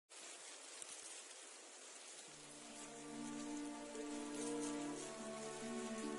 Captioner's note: rustling reeds